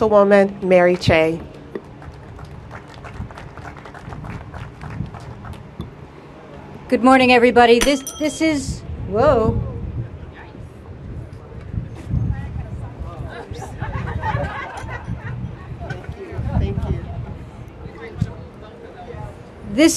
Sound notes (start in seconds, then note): 3.8 applause; 11.5 laughter